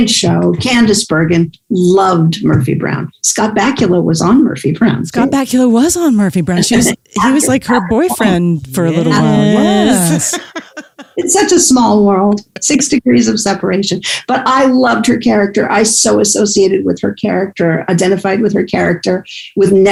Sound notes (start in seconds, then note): 10.5 laughs